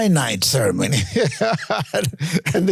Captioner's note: laughs